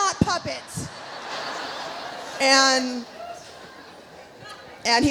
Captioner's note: audience laughs